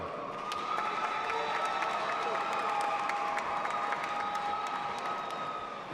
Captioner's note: audience applauding and cheering